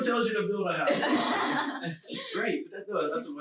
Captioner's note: laughing loudly